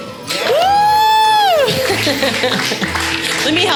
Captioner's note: audience applauding; audience member whooping